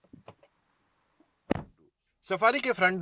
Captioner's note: door Thud